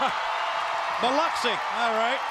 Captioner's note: crowd cheering